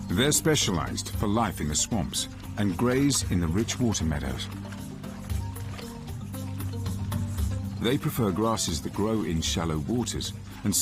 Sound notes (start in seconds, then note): 4.9 dramatic music; 4.9 river waves crushing